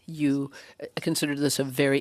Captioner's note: speaking French